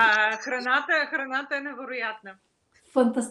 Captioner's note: foreign Language Spoken